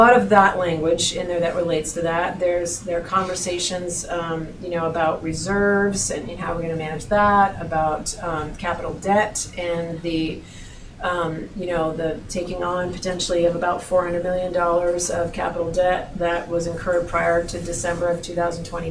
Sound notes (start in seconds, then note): none